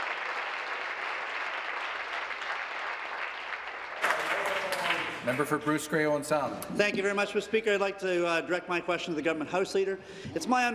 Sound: some Applause

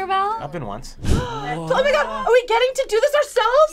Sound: gasps

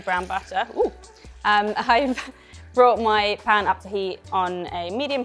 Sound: chuckles

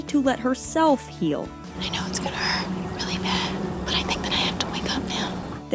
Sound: whispers

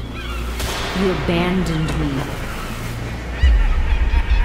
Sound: seagulls intensify; gunshot fires; distant maniacal laughter

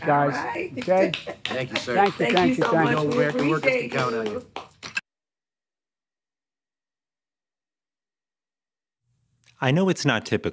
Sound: laughter

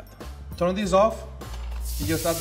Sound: sizzing

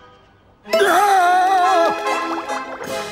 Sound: screaming

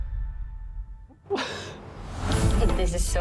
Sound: chuckles

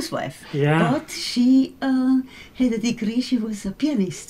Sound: laughs

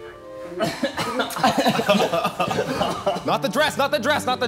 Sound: laughing

